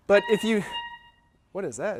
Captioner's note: squeaking